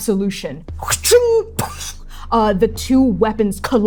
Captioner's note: weapons clashing